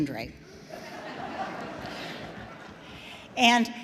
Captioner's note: audience laughs